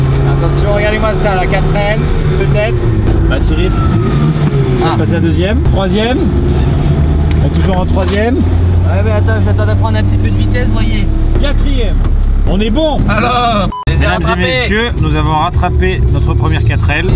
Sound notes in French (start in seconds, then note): 3.6 Bruit de moteur hurlant